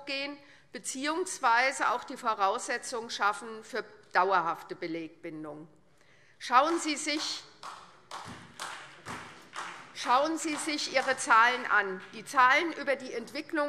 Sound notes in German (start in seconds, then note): 6.6 Beifall SPD